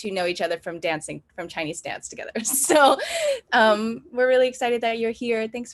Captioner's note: laughs